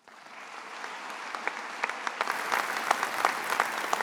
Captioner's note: attendees applauding